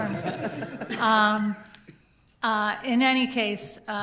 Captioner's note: laughter